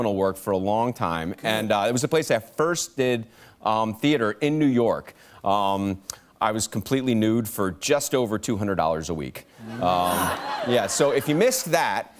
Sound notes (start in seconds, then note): 9.6 laughter